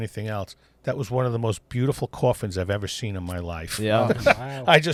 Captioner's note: laughter